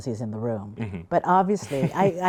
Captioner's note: laughs